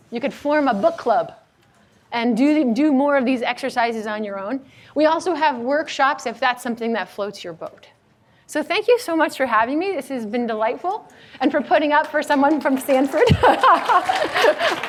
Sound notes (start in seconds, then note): 12.3 audience applauds; 13.2 laughs